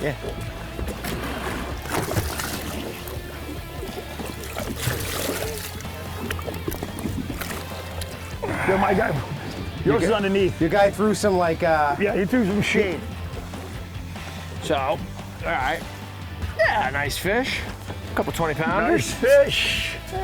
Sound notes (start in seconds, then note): 0.9 upbeat music continues; 4.6 water burbling